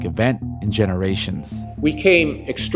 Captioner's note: soundbite of archived recording